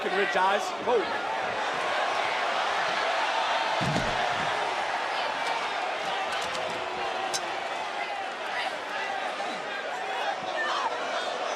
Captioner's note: yelling